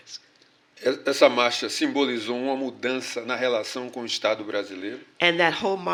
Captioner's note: speaking portuguese